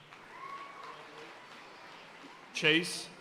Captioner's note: audience cheering and applauding